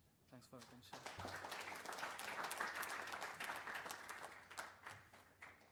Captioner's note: applause